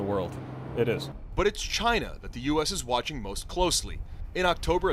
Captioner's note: voice-over